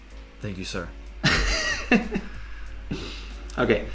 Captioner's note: laughs